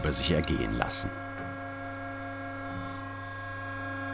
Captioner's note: machine whirrs